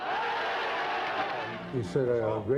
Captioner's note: people cheering